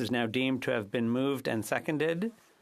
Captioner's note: speaking French